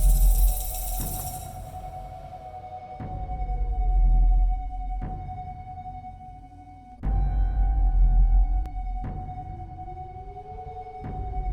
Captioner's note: rattling sound; howling wind; ominous flute music